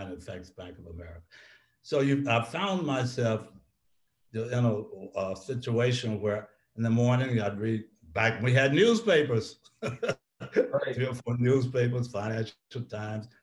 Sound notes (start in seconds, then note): 9.8 laughs